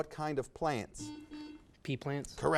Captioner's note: buzzer buzzes